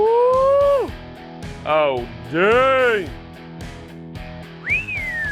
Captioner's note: whistles